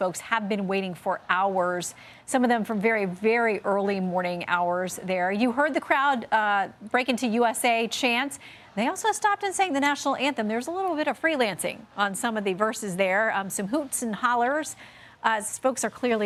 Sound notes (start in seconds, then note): none